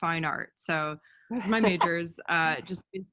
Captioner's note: laugh